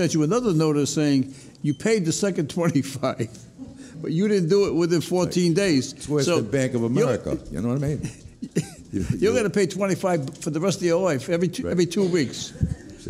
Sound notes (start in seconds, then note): 3.2 laughs; 7.8 laughs